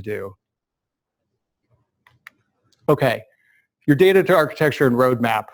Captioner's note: pause